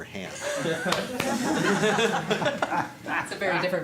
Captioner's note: laughter